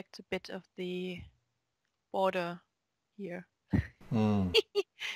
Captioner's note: both laugh